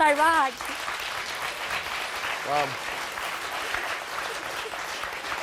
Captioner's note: audience applauding